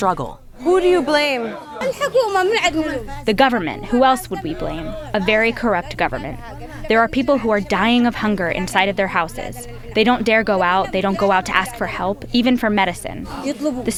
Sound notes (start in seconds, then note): 2.4 through translator